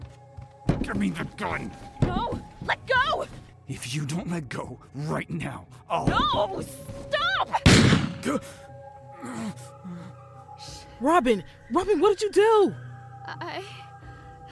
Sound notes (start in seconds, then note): 0.0 heavy footsteps; 7.6 gunshot; 10.4 surprised gasp